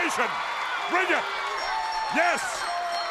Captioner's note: bell ringing